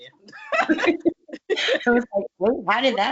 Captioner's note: laughs